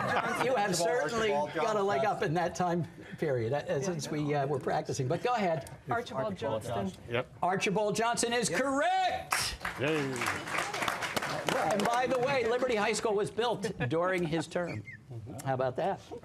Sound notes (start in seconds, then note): 9.3 applause